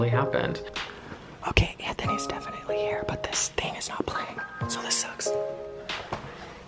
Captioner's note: whispering